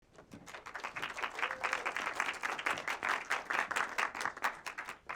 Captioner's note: audience applauding